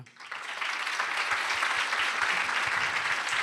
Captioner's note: applause